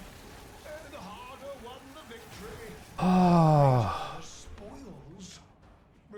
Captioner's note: heavy sigh